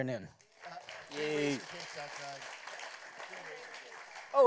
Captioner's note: applause